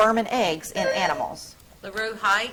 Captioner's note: buzzer trills